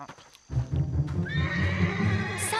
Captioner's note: horse whinnies